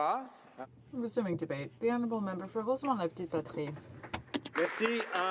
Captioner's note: some Applause